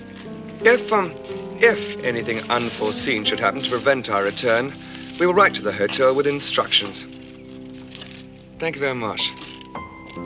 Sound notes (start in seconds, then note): none